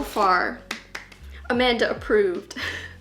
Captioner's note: clapping